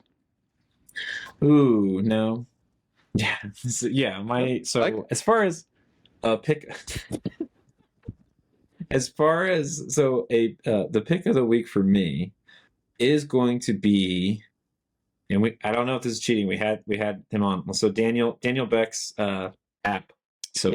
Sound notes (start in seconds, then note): 6.7 laughing